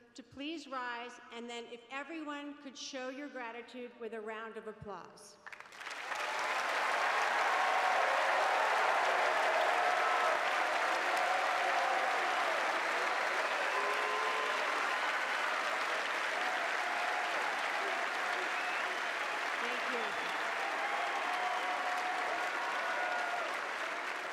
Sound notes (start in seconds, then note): 8.7 cheers and applause